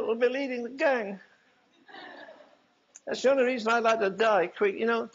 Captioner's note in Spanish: risas